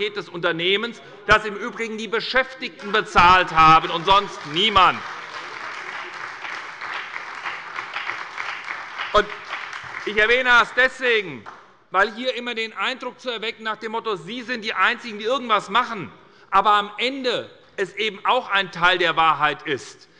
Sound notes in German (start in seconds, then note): 5.4 Beifall bei der SPD und der FDP